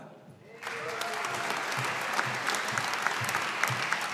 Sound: audience applauding

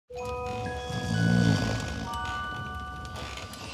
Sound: snoring; light holiday music

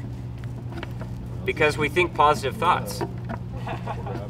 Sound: laughter

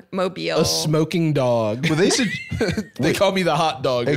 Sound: laughing

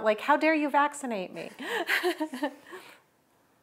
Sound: laughter

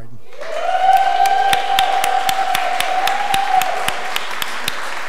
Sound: audience applause

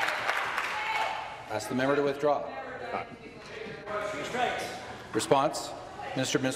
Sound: applause

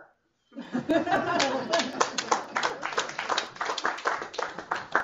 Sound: applause

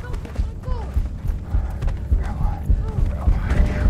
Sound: heavy breathing

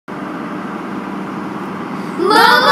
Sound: truck sounds

